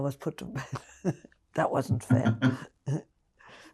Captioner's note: laughing